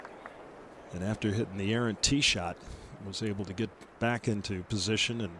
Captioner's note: applause